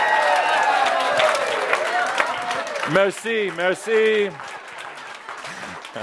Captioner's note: audience approval and applause